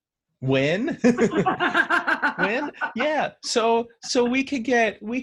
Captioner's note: laughing